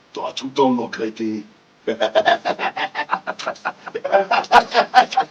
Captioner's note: laugh